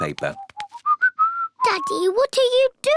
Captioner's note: whistling